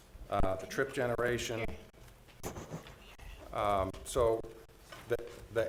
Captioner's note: board chatting quietly